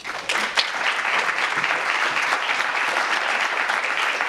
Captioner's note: audience applauds